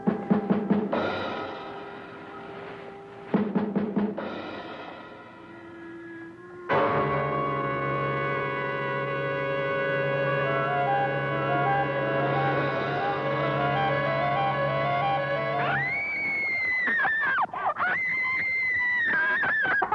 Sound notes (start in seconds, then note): 0.1 suspenseful music; 7.0 intense music; 15.7 screaming